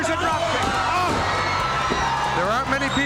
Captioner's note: crowd cheering